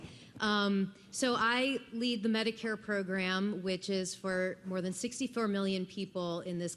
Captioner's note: foreign language